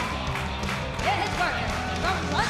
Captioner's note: crowd cheering